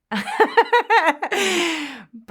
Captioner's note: laughter